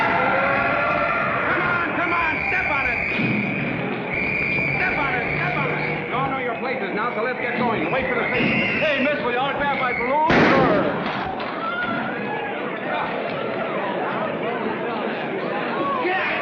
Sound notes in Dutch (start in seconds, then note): 11.8 paniekerig geklets